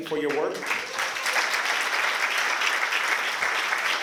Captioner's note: applause